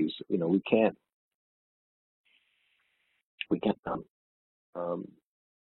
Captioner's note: audio distorts